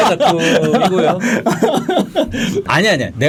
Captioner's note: laughing